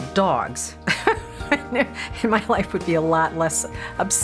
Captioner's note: laughs